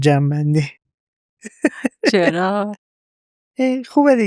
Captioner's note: laughs